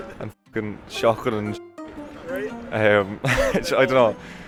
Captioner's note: laughs